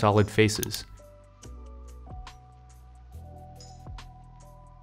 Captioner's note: mouse clicking